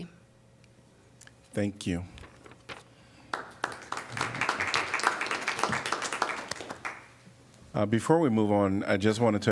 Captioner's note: applause